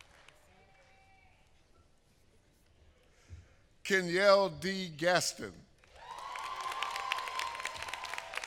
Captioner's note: applause